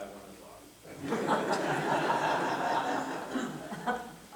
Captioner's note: laughter